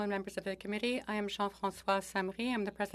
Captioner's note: speaking French